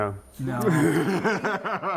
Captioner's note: laughing